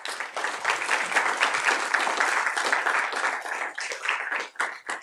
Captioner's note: applause